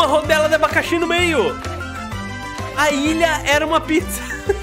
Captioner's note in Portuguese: risos